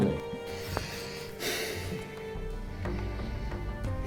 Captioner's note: deep breath